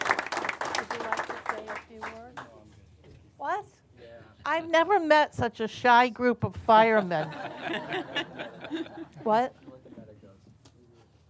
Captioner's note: applause